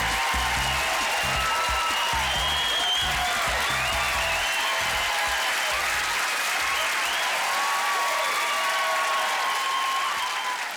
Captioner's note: applause